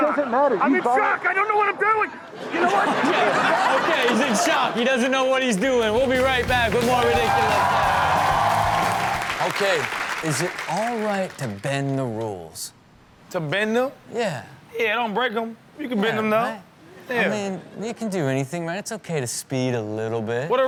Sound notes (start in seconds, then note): 2.3 audience laughing drowns out speaker; 7.8 audience cheers